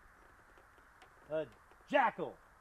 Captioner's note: none